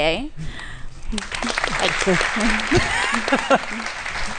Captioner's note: applause